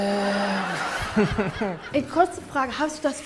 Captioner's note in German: Lachen